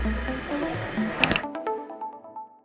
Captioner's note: click, Click Sound